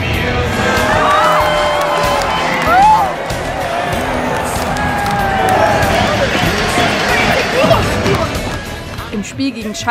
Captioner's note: Stimmengewirr